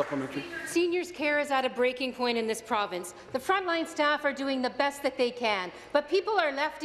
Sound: applause

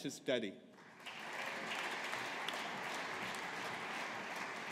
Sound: audience applauding

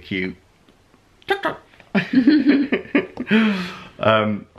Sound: laughter

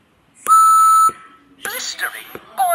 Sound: whistle blows

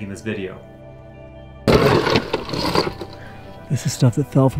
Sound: ores rustling

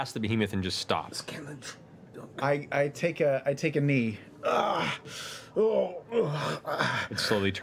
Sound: groans

